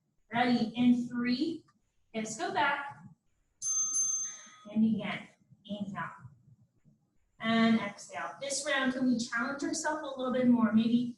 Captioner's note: ding ding